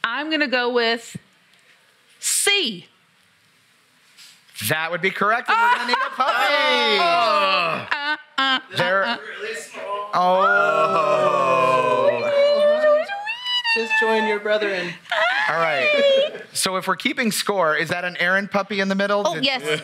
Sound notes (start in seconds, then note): 7.4 cheering; 14.0 laughs